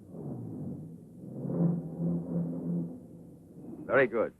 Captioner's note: car engine roaring